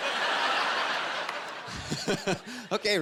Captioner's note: laughing